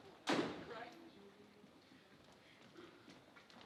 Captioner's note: door slamming